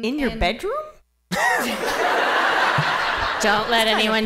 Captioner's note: laughter